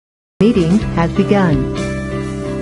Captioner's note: Electronic voice